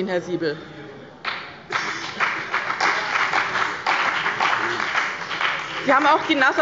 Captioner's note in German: Beifall bei dem BÜNDNIS 90/DIE GRÜNEN und der CDU